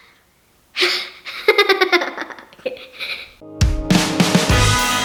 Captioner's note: laughs; electric guitar music